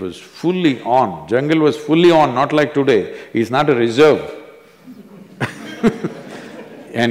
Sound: laughter

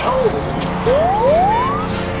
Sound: police chirp

